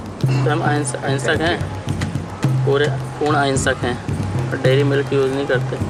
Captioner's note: foreign language speaking